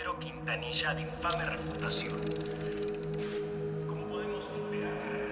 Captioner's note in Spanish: Ruido del cabrestante